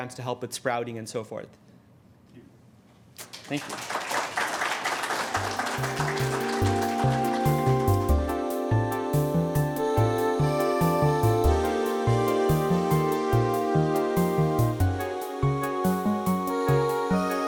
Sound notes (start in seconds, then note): 3.2 audience applauds; 5.3 gentle music